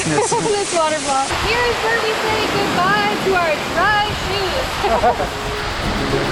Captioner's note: laughs; laughs